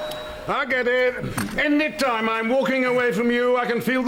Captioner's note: doorbell